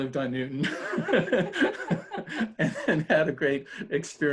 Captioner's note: laughter